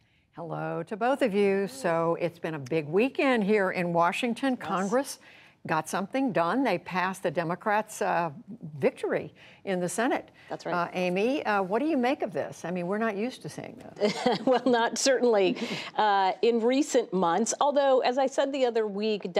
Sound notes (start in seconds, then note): 14.0 laughter